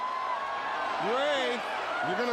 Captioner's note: crowd cheering